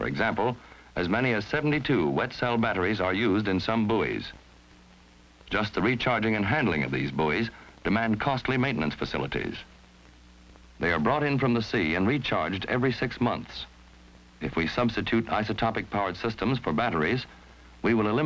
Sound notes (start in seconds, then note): none